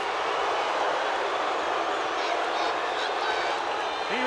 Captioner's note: crowd boos